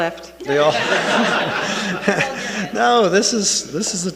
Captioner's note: attendees laughing